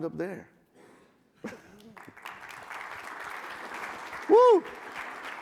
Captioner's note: audience clapping